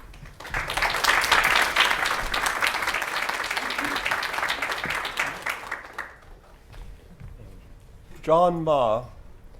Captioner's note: applause